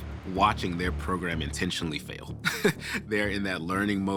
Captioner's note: chuckles